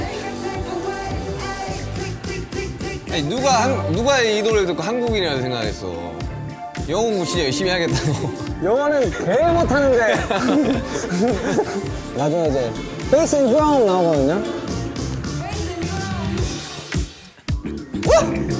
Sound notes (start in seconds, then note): 9.3 mouth cave opens